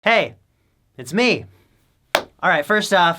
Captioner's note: clap